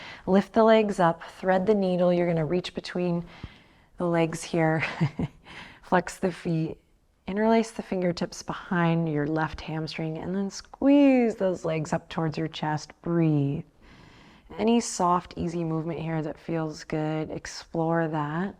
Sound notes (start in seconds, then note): 4.8 chuckles